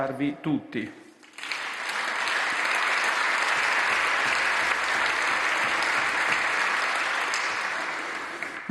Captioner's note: roar of applause